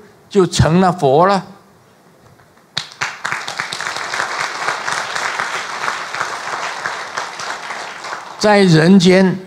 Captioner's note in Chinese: 眾鼓掌